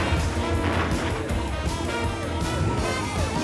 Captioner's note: siren blaring